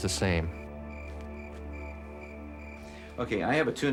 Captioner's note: insects chirping